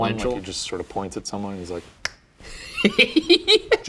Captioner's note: snapping fingers; laughing